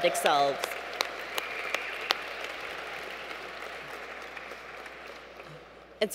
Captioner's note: cheers